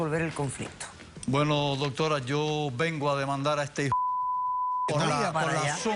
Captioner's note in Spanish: Bip